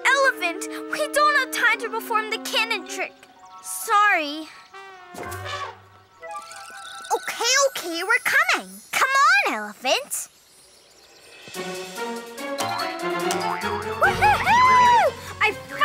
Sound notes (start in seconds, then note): 4.7 elephant trumpets; 11.0 light music